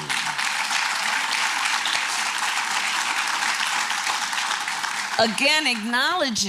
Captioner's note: applause